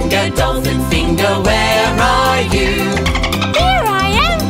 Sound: dolphin squeaking

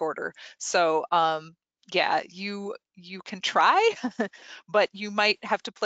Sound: laughs

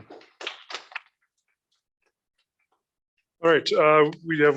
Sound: applause

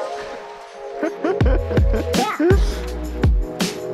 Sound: laughing

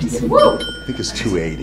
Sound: dinging

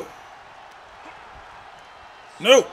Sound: applause

